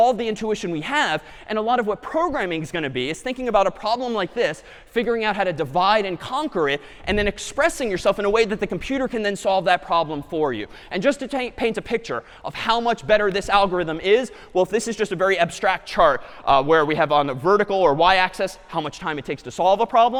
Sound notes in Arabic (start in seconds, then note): none